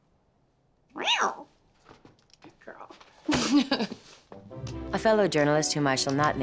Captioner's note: meowing